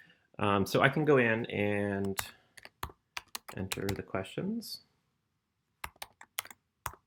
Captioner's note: typing